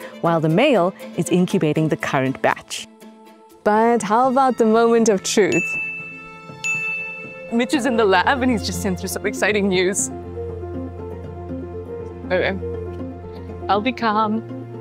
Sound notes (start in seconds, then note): 5.5 text messages ding